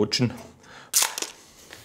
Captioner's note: crackling